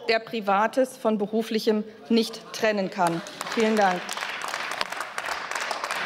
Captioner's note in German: Beifall